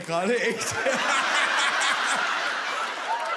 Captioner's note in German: Schreiendes Lachen